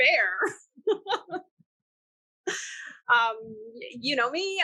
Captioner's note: laughing